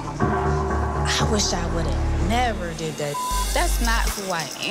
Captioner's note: beep